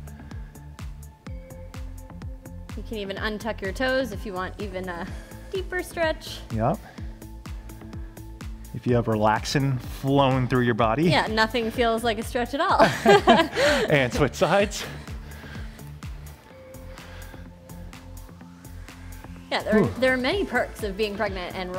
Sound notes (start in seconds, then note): 0.3 upbeat music continues; 12.8 laughs; 15.4 upbeat music